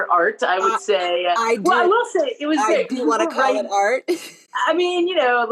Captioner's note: laughter